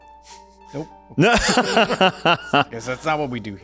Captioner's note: laughing